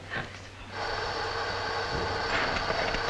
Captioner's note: engine whirring; metal rattling